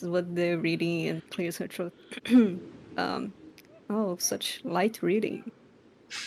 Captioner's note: cough